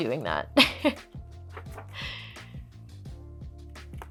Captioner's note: laughs